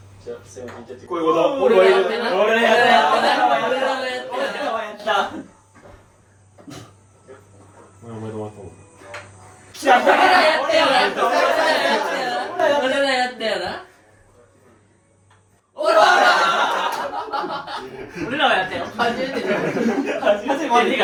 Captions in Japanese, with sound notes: じゃ、引ちゃって。こういうこと。やっ、 俺やっ、俺らはやっ。 俺らはやった。お前お前終わった。 来た。俺らやったよな。俺らやったよな。 俺らやったよな。 おら。[笑い] 俺らをやったよ。 初めて初めて。え、